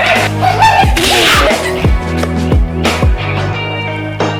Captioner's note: stops laughing; smack